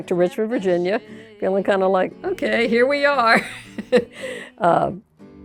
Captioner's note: laughs